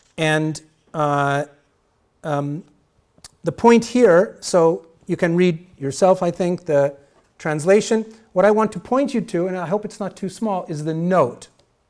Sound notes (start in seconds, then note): none